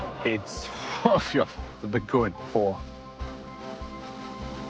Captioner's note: scoffs